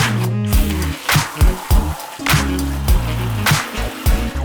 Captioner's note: water splashing